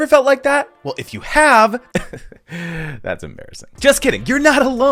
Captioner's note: laughs